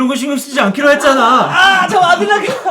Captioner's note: screaming